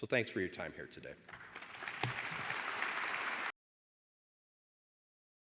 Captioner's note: audience applauding